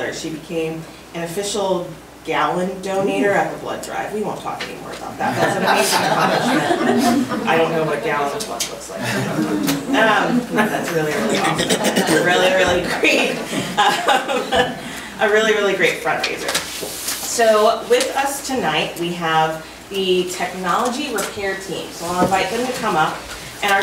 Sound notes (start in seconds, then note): 5.2 group laughs; 14.6 laughs